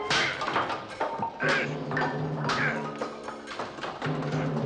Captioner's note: grunting